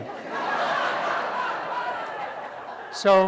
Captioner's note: laughter